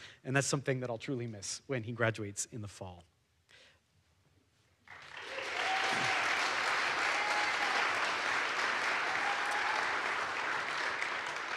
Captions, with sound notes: and that's something that I'll truly miss when he graduates in the fall. (audience applauds) (audience cheers)